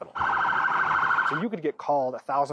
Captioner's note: siren wails